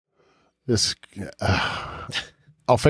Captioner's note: sighs